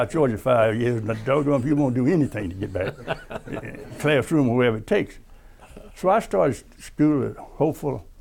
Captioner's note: laughter